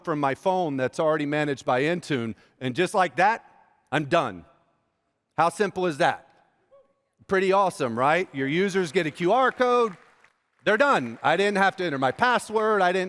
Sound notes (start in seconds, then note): 6.2 cheers; 7.8 applause